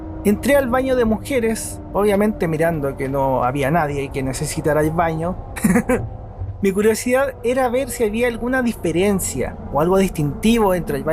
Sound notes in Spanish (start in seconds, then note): 5.6 risas